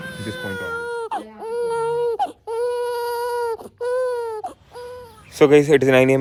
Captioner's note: baby crying